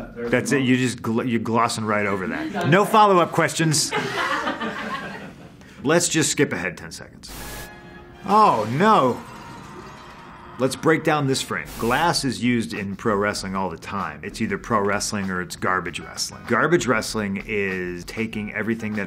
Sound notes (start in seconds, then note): 3.7 laughing; 8.7 screaming